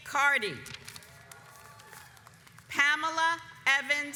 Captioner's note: audience applauds